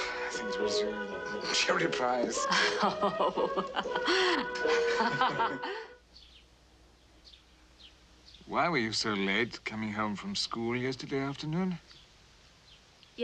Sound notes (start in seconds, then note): 2.4 Mrs. Haze Laughing